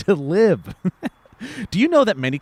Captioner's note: laughs